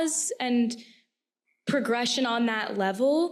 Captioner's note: none